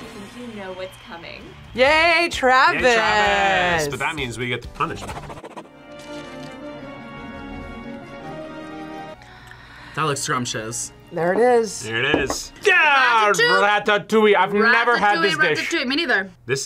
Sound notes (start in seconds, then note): 5.6 orchestral music; 9.2 gasps